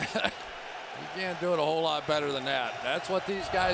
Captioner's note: laughs